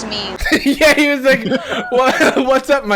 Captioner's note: laughing